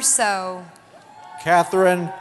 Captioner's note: cheering